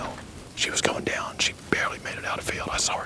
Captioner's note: whispering